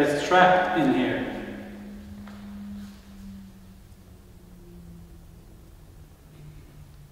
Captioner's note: the sound heard is a car driving